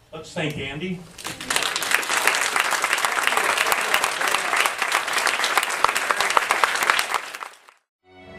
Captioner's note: applause